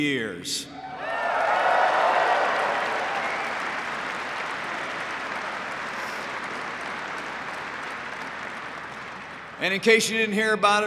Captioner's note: applause